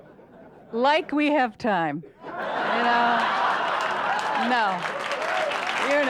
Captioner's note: audience laughter; audience laughs and claps